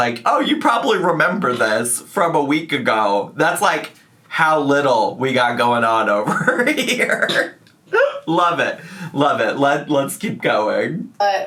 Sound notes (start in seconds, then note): 6.2 laughs